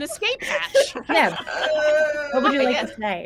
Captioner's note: screams softly